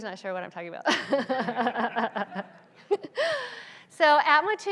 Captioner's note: laughs; audience laughs